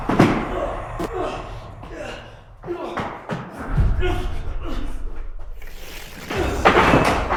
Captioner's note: Jacob groaning; static crackles; Jacob groaning; ominous voice